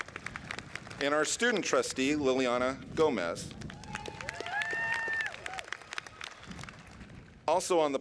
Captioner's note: clapping